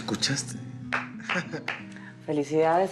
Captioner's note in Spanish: Palmadas